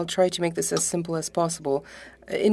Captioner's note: speaking French